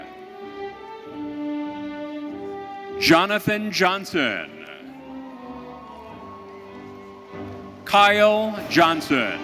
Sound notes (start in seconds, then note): 4.4 audience cheering